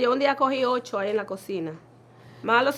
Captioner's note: none